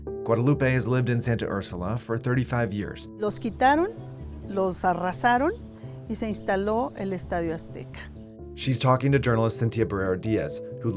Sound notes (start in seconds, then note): 3.4 speaking in foreign language